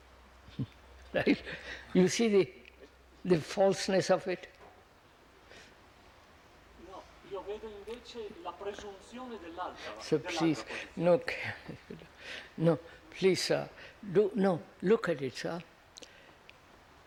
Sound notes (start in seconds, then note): 8.0 Italian